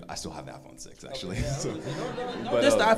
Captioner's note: crowd laughs